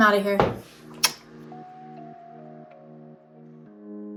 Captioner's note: smacks lips